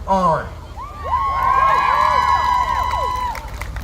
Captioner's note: crowd cheering